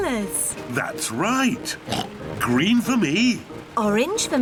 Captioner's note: laughs; oinks